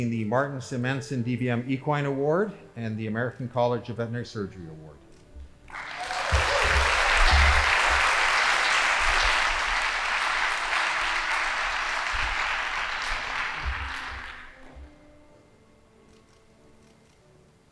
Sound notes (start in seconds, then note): 5.6 audience applauding; 14.8 band playing